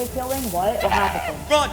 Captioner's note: scream